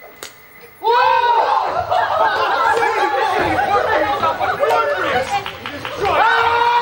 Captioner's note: arrow whooshes, twig snaps; cheers; guy screams